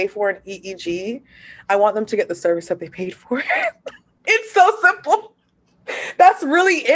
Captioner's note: laughter